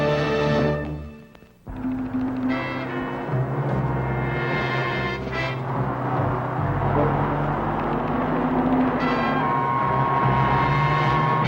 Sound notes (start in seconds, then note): 1.9 suspenseful music; 6.8 truck engine whirring; 8.4 suspenseful music